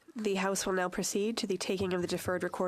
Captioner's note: speaking French